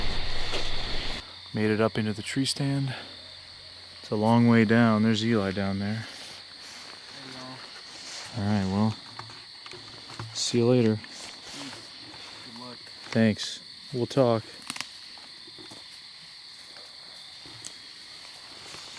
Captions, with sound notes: Made it up into the tree stand. It's a long way down, there's Eli down there. All right, well, see you later. - Good luck. - Thanks, we'll talk. (insects chirp)